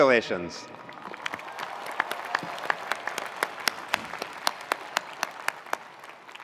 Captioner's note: attendees cheering; attendees applauding